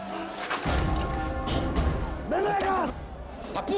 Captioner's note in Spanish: Griterío